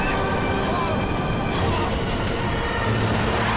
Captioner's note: horns honking